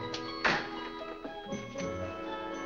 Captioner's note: door closes